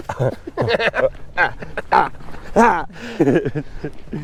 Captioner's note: both laughing